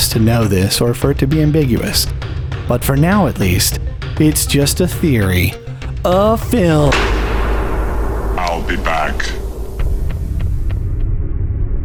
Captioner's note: slam